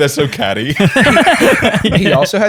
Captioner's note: laughter